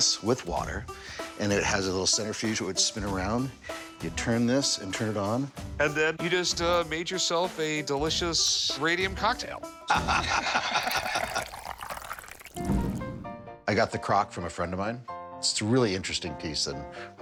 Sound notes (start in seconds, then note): 9.8 both laugh; 10.2 water pouring